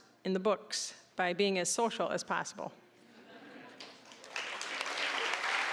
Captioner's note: audience laughing; applause